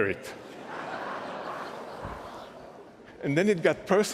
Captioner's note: laughter